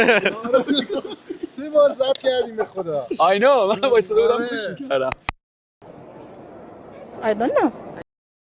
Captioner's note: laughs